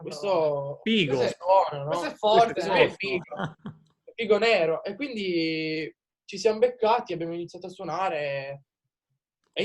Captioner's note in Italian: risate